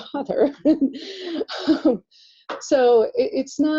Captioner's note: laughter